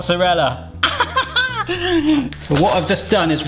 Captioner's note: laughs